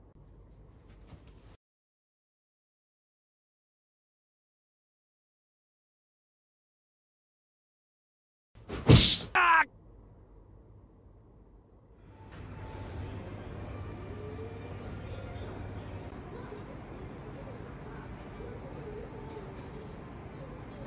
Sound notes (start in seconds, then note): 9.3 laughs